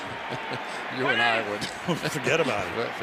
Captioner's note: chuckles